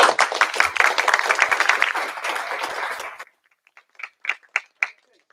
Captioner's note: applause